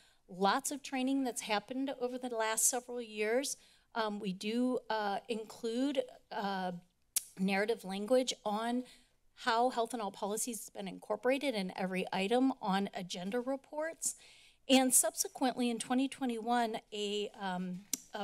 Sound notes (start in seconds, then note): 7.2 clicks tongue; 17.9 clicks tongue